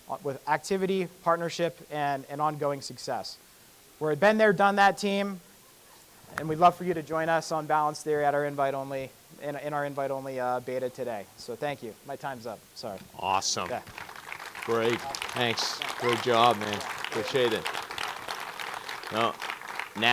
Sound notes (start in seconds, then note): 13.4 audience clapping; 13.4 audience clapping continues